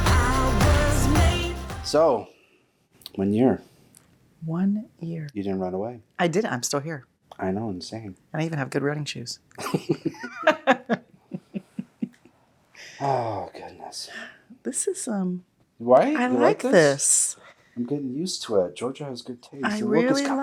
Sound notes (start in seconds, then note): 9.6 William and Meredith laugh